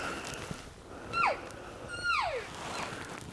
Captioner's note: caller cow calling